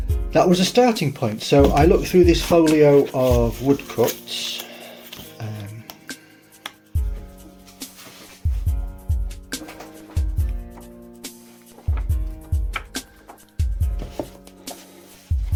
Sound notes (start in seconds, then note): 5.0 soft music; 11.6 pages flicking; 15.1 soft music continues